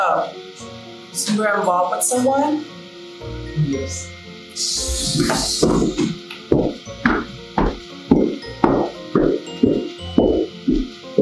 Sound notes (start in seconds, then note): 4.9 chair rustling; 4.9 loud footsteps